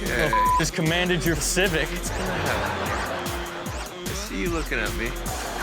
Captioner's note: beep; audience laughs